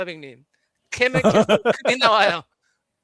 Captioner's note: non-english speech; laughter; non-english speech